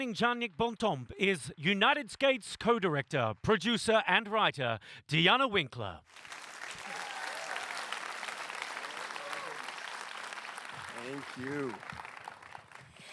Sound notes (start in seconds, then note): 8.4 applause